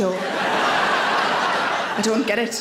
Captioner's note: audience laughing